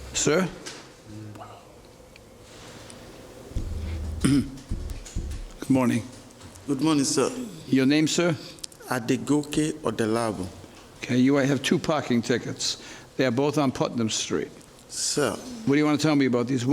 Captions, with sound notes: Sir? (defendant clears throat) Good morning. Good morning, sir. Your name, sir? Adegoke Adelabu. Okay, here I have two parking tickets. They're both on Putnam Street. Sir? What do you want to tell me about these?